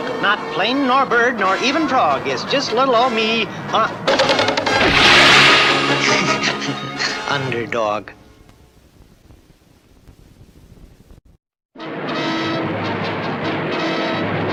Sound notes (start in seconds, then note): 4.7 crash! & splash!; 6.5 laughs!